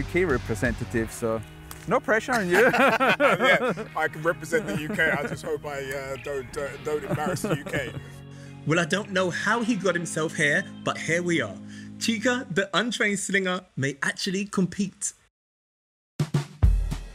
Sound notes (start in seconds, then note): 2.4 laughter